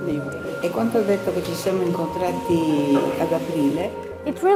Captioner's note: speaking in foreign language